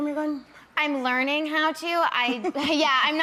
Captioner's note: laughs